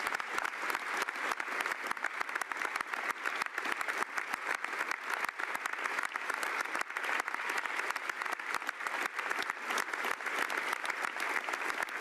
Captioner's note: some Applause